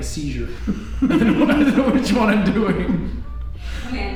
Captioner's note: both laughs